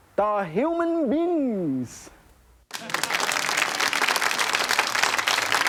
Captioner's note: audience applauding